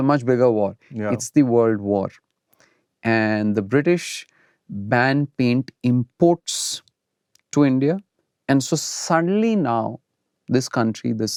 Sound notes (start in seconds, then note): none